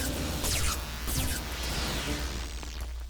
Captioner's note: electrical buzzing; buzzing; suspense music